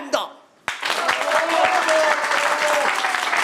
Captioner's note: applause